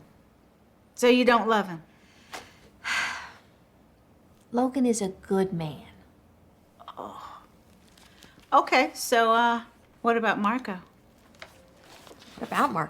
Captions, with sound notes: SO YOU DON'T LOVE HIM? LOGAN IS A GOOD MAN. [GROANS] OKAY, SO, UH... WHAT ABOUT MARCO?